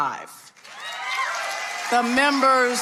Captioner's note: audience applauding